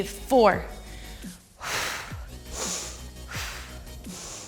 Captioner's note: exhales